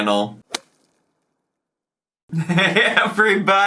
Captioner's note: stick whips; laughing